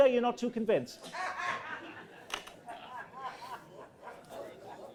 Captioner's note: laughing